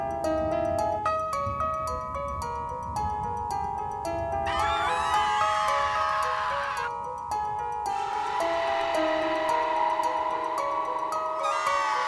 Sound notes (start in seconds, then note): 4.4 woman screaming; 8.0 demonic groaning echoes; 11.4 woman screaming